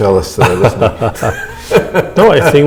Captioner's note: laughter